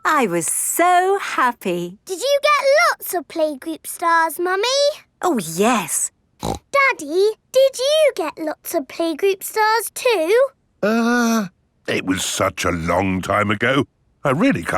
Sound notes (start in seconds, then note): 6.4 snorts